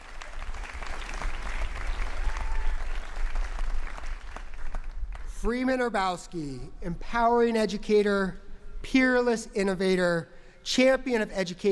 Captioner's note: applause